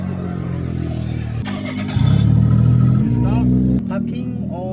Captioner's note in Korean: 심장을 울리는 엔진 사운드